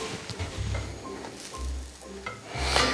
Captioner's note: sizzle